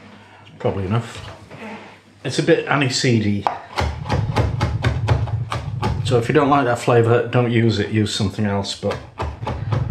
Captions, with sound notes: Probably enough. It's a bit aniseedy. [ CHOP CHOP CHOP ] So if you don't like that flavour don't use it, use something else but